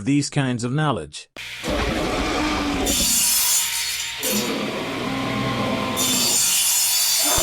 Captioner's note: sound effects